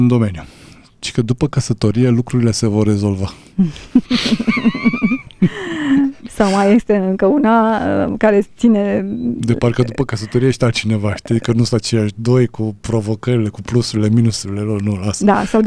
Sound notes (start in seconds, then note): 2.4 snoring; 3.6 laughter; 5.4 gasp